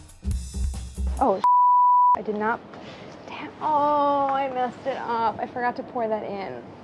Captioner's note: beeps